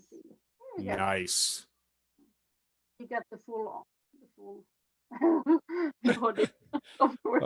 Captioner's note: laughs